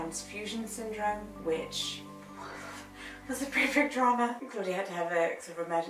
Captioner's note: exhales